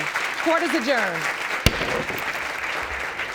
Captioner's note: gavel banging